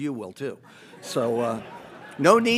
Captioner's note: audience laughs